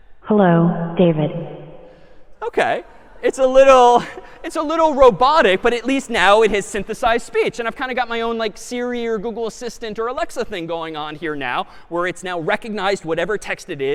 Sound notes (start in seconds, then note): 3.9 laughter